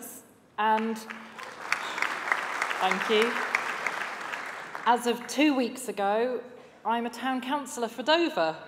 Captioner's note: applause